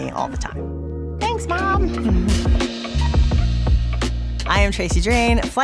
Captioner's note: rhythmic music; laughs